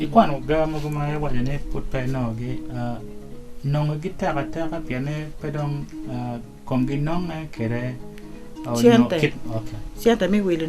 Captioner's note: man speaks